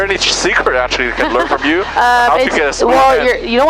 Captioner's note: laughing